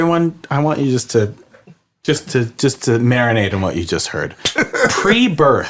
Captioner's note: laughs